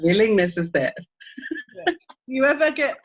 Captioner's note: laughing